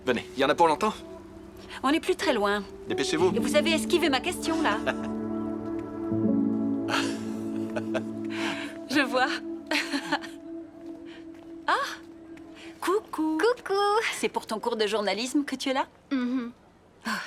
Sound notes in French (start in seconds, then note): 7.5 rires